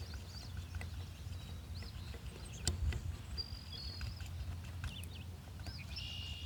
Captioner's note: birds chirping